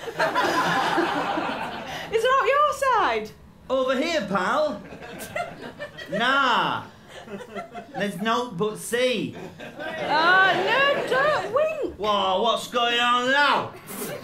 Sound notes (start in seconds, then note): 0.0 laughter; 10.0 audience cheers